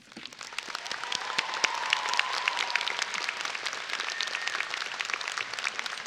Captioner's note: audience applauding and cheering